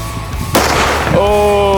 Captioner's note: gun bangs